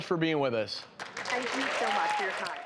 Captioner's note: applause